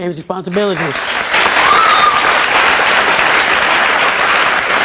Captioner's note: audience applauds